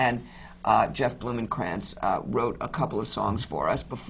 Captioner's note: none